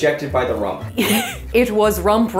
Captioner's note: laughs